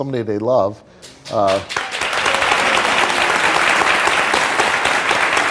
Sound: audience applause

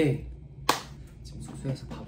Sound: clapperboard

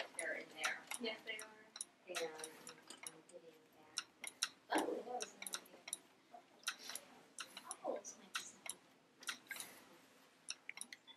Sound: clicking noise and background chatter

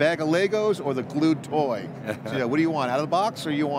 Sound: chuckles

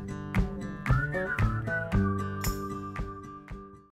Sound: whistling

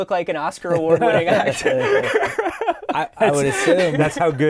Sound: laughter

